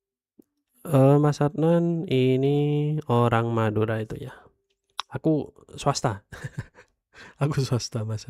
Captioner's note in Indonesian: tertawa